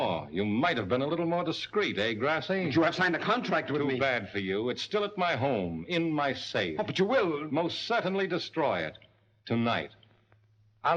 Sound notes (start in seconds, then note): none